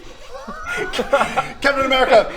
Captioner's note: ashamed giggles